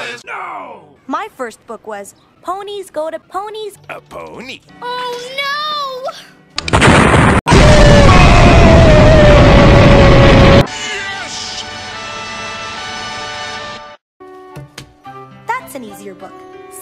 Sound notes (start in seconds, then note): 6.6 explosion